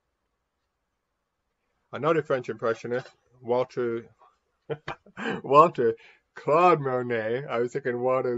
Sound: laughs

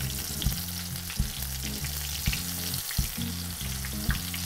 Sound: sizzling

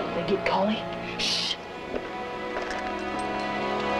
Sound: shushes

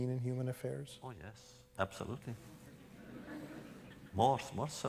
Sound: laughter

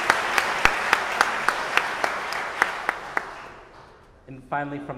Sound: audience applauding

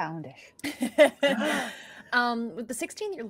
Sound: laughing

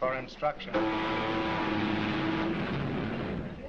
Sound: boat horn sounding

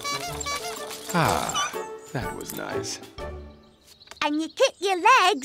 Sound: horn honking

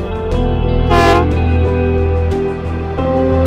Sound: horn honking

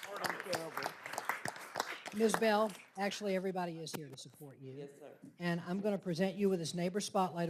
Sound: applause

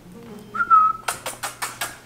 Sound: whistling; kissing

